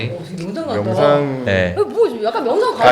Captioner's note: booming voice